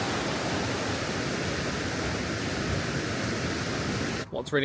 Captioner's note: water flowing